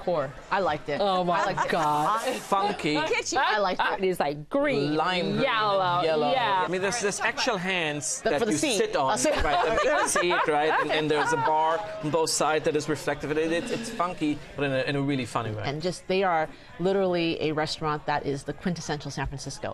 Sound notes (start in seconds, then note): 9.2 laughter